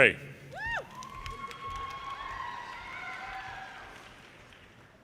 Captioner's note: audience cheers and applause